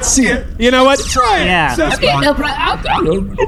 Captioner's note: voice sliding up and down